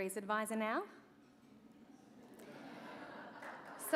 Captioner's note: laughter